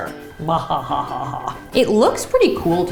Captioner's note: laughs evilly